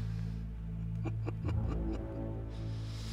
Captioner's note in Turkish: Gülme sesi